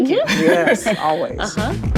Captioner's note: laughing